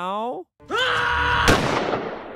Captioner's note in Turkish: atış